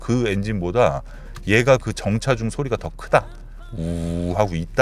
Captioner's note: the sound of the engine on stoppage depends on the car condition